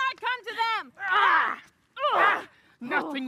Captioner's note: yells